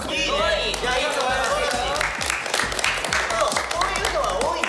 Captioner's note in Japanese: 拍手